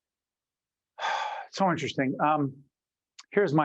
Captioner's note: sigh